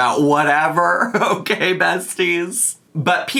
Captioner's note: chuckles